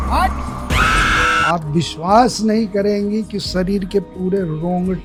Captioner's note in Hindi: चीखने की आवाज़